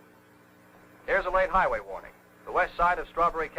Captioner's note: radio Announcer